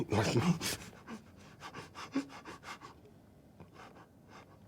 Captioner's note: panting